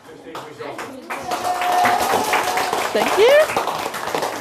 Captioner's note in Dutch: Klappen en juichen